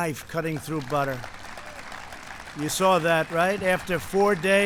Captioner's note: applause